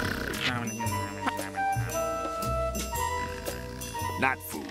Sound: snoring

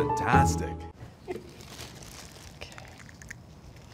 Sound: plastic crinkling

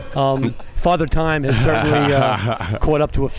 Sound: laughing

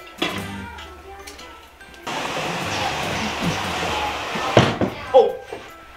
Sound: furniture scrapes and bumps

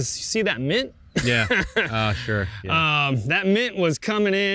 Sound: laughs

